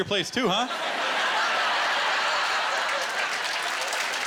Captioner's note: laughter and applause